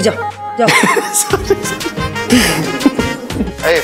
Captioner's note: Laughing